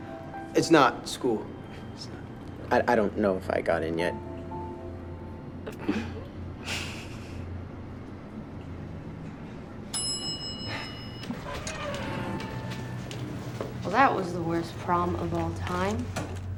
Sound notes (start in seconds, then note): 5.7 snickering; 9.8 elevator dings